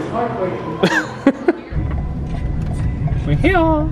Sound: laughs

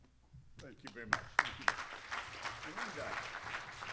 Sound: applause

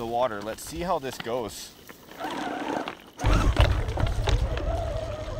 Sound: electric motor revs

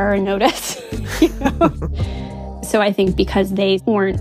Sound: both laugh

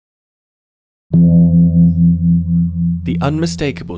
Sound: gong sounds

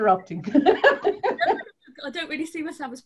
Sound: laughs

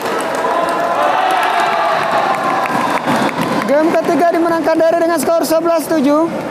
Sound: applause

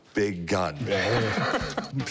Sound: laughs

